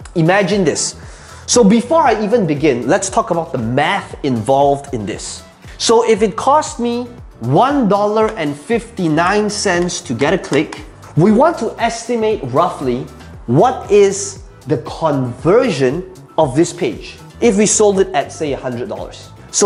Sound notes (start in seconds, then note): 10.2 tapping marker